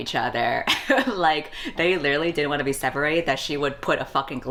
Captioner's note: laughs